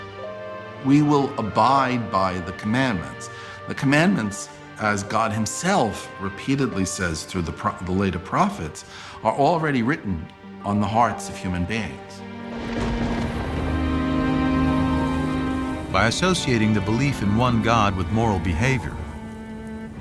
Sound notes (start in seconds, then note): 12.4 thunder